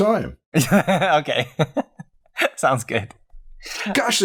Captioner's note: laughter